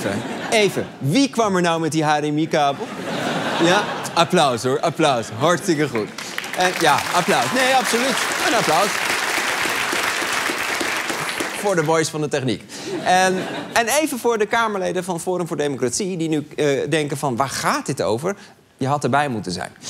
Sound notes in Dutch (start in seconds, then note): 5.8 applaus